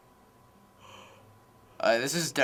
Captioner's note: teen yawning softly